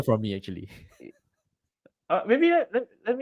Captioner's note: laughs